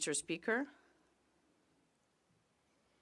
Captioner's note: speaking French